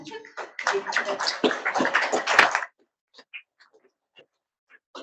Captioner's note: audience applauds